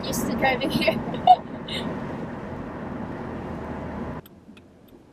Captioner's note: laughs; blinker flashing